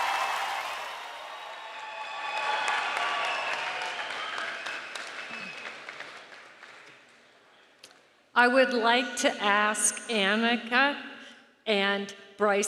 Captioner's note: cheering and applause